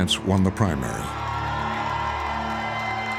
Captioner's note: crowd cheering and applauding